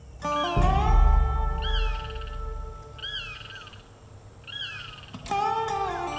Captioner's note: wildlife chirping; southern gothic music